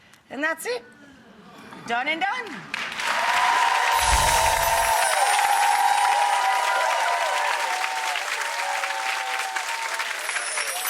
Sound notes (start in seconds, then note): 2.4 people clapping; 3.9 chimes tinkling